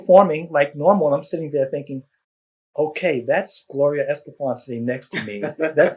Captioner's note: laughter